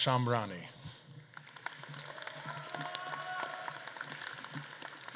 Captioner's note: audience claps and cheers